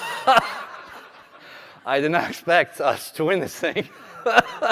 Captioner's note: laughter; laughter